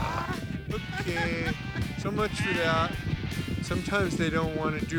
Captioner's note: laughing